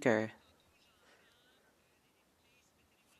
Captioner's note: speaking French